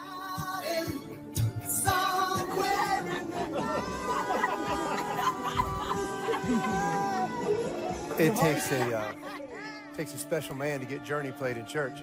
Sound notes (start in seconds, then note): 4.9 group laughing